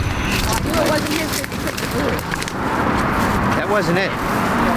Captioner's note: spectators chattering; branches cracking